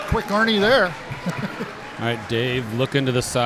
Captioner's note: laughing